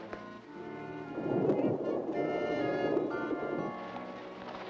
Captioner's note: ominous music; underwater splash; ominous music